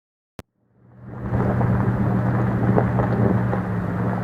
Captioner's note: engine, road noise